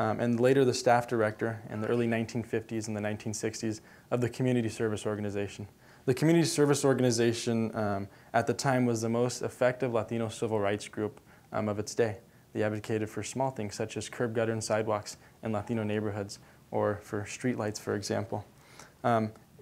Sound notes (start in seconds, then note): none